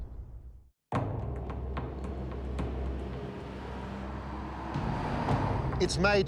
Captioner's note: dramatic music continues; traffic rumbling